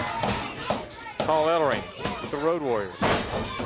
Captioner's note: crowd chatter